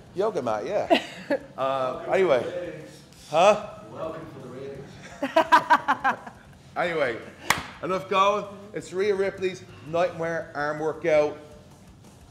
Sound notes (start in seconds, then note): 5.0 laugh